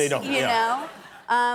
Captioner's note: laughter